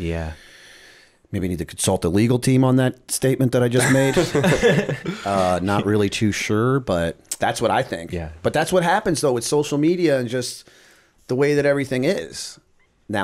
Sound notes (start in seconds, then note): 3.8 laughter